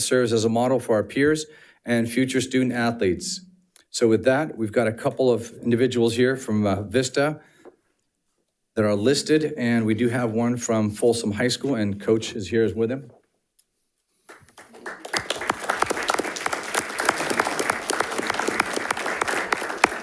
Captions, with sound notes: serves as a model for our peers and future student athletes. So with that, we've got a couple of individuals here from Vista that are listed, and we do have one from Folsom High School, and coach is here with him. (audience applauding)